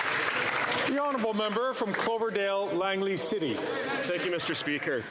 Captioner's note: some Applause